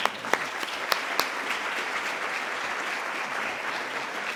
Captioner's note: applause